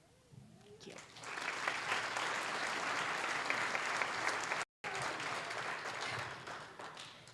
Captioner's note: applause